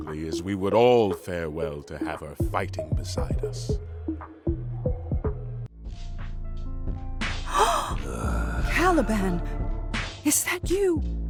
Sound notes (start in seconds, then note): 5.8 gentle music; 7.4 Sycorax gasps; 7.5 Caliban groaning